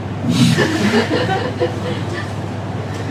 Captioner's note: laughs